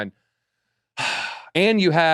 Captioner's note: sigh